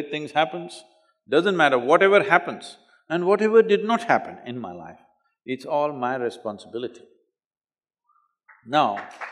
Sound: applause

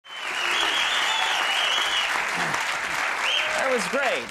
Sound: audience cheering and applauding

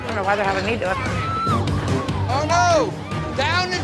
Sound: screaming

